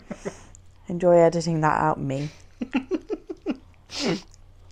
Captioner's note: laughs